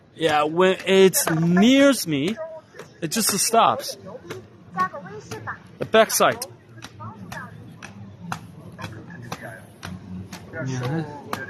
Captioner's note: footstep sound